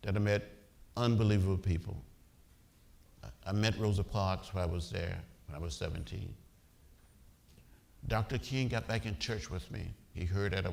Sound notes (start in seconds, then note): none